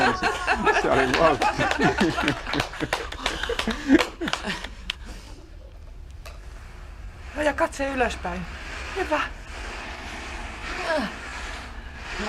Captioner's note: laughter, applause